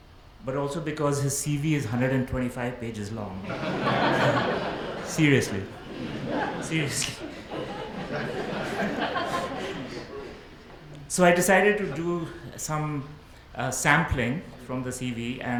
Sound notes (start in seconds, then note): 3.4 audience laughs; 8.7 laughs